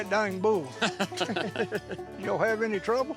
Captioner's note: guys laughing